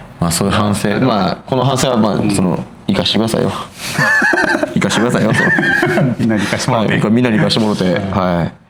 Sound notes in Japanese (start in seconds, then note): 3.9 笑い